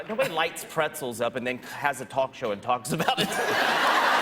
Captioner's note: laughter